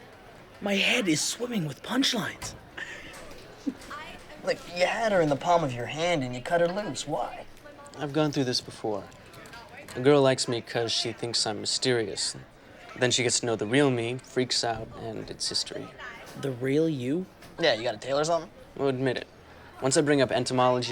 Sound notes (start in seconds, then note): 2.6 laughs